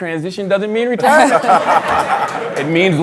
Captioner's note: laughter